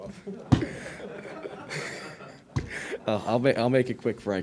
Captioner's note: everyone laughing